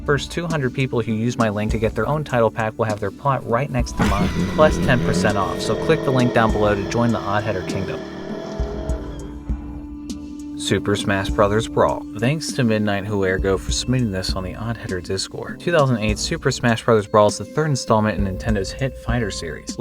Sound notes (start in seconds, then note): 3.8 monstrous growl